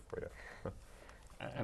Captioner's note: laugh